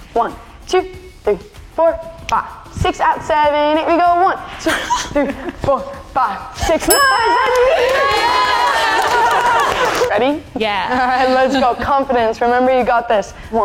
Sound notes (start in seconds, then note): 7.1 all cheering